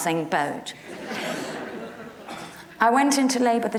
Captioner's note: audience laughs